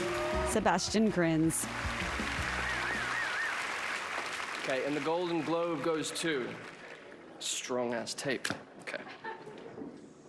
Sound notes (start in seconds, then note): 6.9 applause